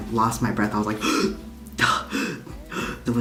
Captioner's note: gasping for air